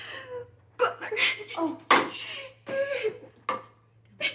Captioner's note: sobs